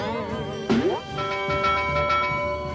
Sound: rope twangs; bell clangs

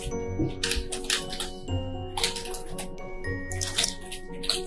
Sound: keyboard clicking

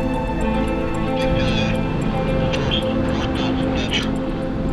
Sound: police radio chatter

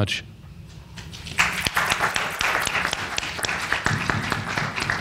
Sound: panel applauds

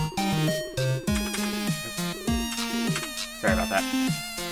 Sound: types on keyboard

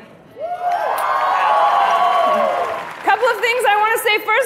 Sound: cheering

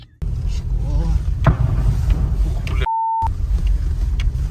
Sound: explosion

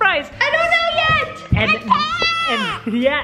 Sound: yells

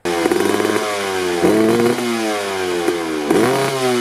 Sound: engine roaring

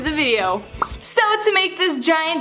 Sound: pop

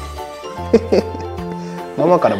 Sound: laughs

